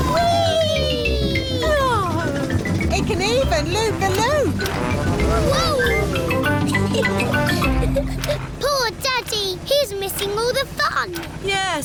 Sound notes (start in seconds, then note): 6.4 giggles